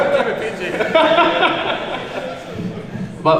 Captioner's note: laughing; laughs